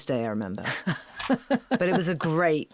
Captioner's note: laughing